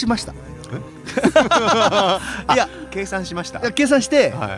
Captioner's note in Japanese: 笑い